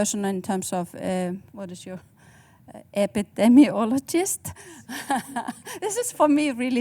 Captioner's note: laughs